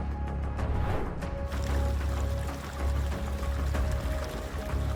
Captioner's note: transition whooshing; water gushing